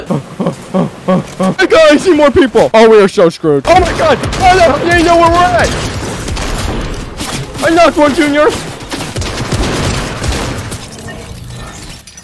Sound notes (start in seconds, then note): 3.9 multiple guns firing; 10.1 multiple guns firing